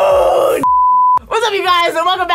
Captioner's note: beep